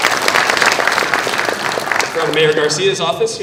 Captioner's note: applause